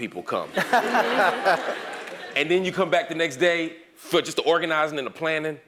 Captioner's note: laugh